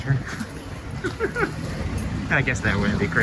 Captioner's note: laughing